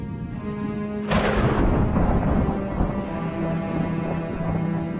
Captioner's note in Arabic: تصفيق الرعد